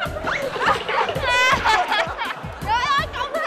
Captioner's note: laughing